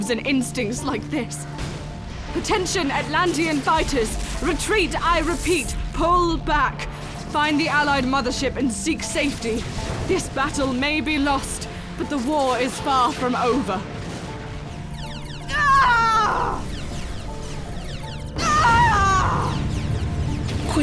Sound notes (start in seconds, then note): 15.5 Shaliah screams; 16.5 ships firing; 18.4 Shaliah screams